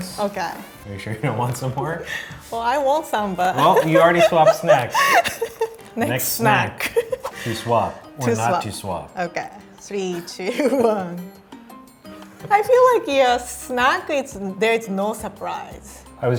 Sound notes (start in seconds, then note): 3.6 laughing; 11.4 upbeat music